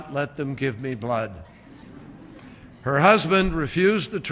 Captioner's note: laughter